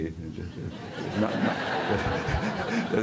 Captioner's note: audiencia riéndose